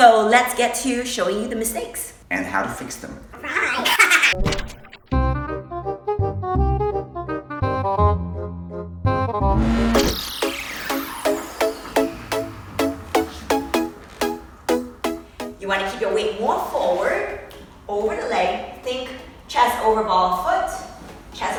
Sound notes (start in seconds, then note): 3.4 high-pitched laughter; 5.1 clarinet music; 9.7 car engine revs